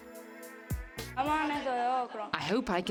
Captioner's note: speaking in foreign language